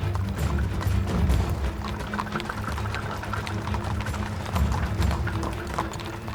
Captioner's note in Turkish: At arabası sesi